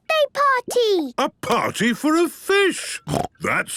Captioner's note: snorting